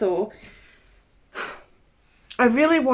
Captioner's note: sighs